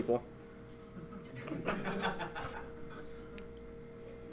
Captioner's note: laughing